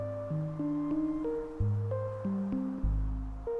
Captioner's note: birds chirping